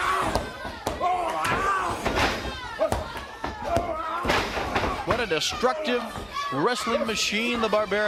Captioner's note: crowd chatter